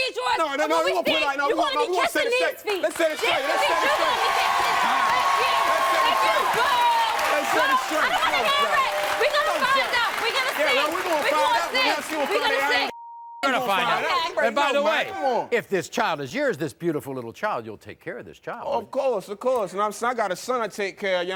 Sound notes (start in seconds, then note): 3.7 crowd cheering; 6.0 yelling; 12.2 yelling